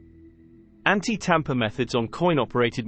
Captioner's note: british male voice